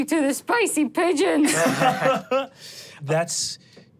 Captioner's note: laughs